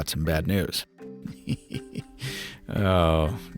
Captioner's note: laughing